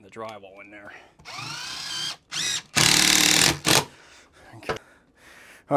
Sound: machine buzzing

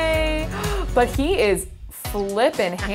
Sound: gasps

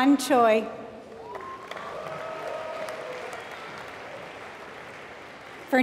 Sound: applause

